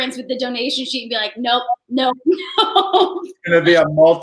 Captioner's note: laughing